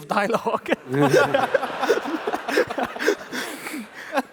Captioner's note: laughs